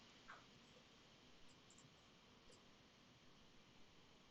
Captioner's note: keyboard keys clicking